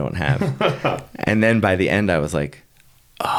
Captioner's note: laughing